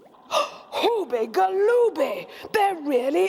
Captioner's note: gasps